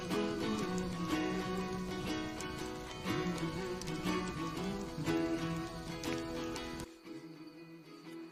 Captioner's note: crackling